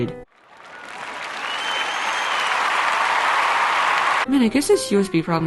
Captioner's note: crowd cheers and applause